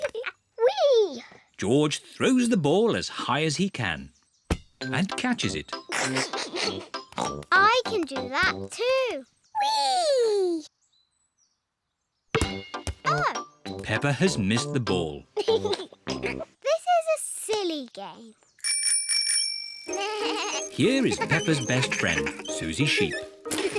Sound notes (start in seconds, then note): 5.8 laughs; 5.9 snorts; 12.3 thud; 15.3 laughs; 18.6 bell rings; 19.9 bleating